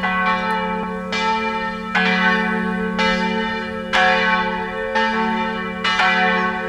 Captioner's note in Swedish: Kyrkklockan ringer